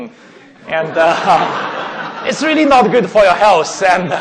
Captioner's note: laughing